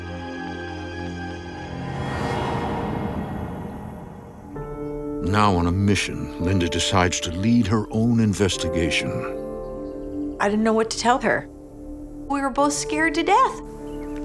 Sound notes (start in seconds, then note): 2.3 insects chirping